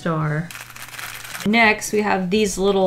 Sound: rattles candy

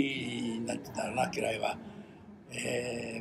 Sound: foreign language

